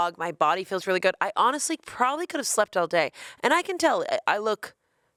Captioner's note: none